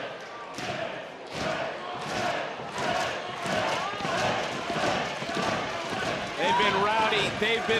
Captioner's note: chanting